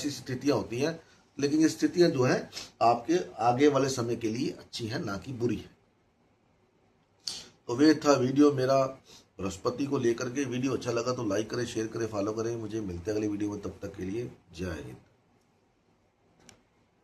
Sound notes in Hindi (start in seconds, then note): 2.5 नाक से की जाने वाली आवाज़; 9.5 नाक से की जाने वाली आवाज़